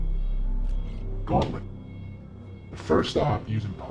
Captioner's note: disguised voice